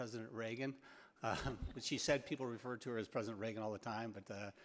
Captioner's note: laughs